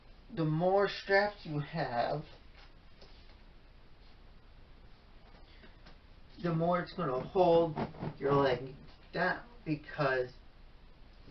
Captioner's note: scrunching of matress as body moves